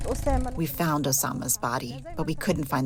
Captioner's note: through translator